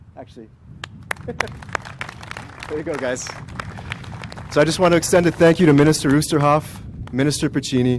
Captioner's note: applause